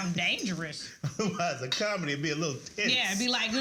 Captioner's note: laughs